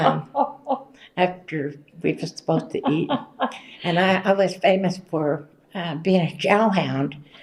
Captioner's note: laughter